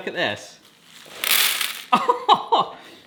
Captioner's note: popcorn rattling; laughs